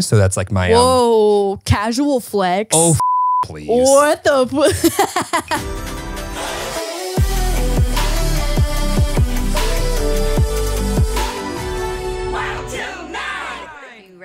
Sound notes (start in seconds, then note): 2.8 beep; 4.6 laughs; 5.7 upbeat music